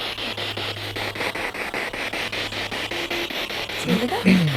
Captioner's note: noise of the spiritbox in the background